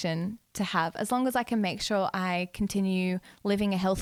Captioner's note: none